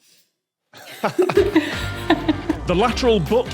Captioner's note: group giggling